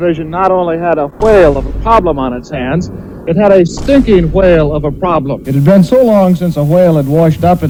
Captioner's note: boom